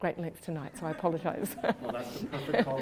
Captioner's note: laughs